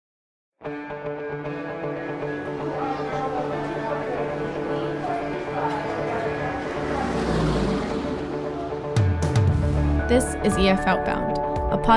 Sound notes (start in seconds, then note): 0.7 uplifting music; 4.2 overlapping distant chatter